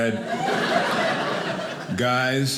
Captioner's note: audience laughing